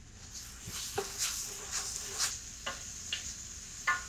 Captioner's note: spoon stirring